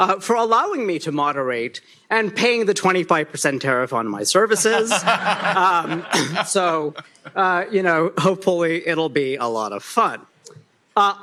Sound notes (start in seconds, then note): 4.6 laughter